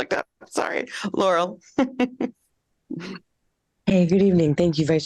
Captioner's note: laughter